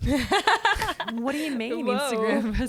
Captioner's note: laughter